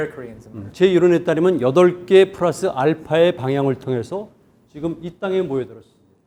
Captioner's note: speaking in Korean